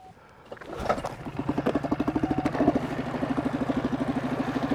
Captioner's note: boat engine spluttering